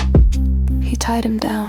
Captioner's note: heartbeat speeds up slightly: Thump-thump, Thump-thump